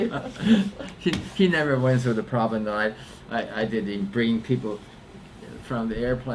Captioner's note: laughs